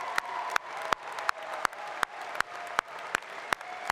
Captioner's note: applause